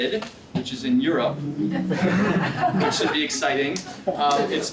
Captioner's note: laugh